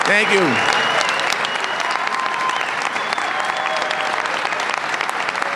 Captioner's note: applause